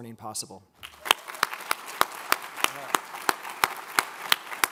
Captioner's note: all applaud